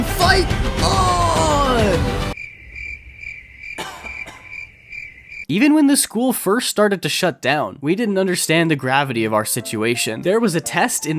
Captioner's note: crickets